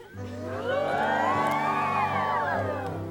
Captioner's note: audience cheering; romantic music